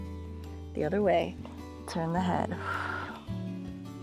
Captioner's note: exhales